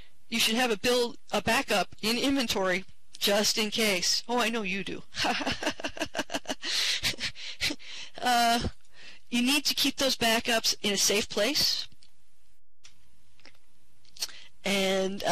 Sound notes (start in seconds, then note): 5.2 laughing